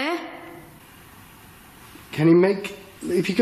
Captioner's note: none